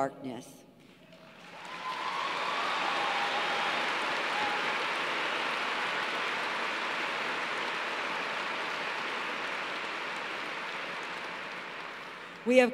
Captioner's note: cheers and applause